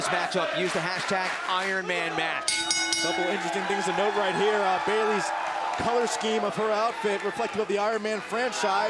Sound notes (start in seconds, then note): 2.4 bell ringing